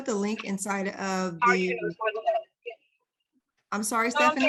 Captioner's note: faintly speaking